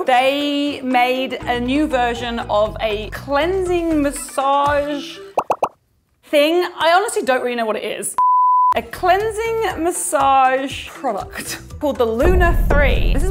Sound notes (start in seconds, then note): 5.4 popping; 8.2 beeping